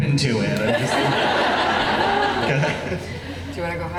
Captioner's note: laughing